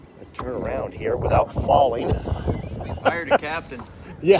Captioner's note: laughs